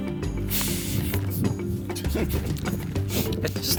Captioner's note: laughs